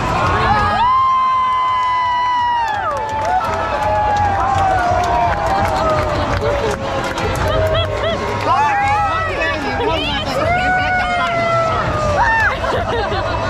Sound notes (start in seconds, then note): 1.5 all cheering